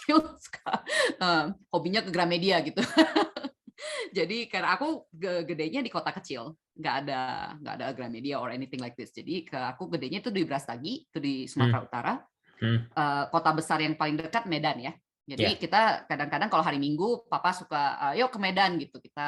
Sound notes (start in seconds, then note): 3.2 laughs